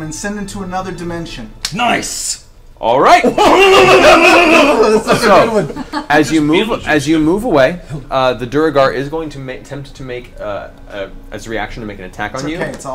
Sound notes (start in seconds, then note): 3.2 all laugh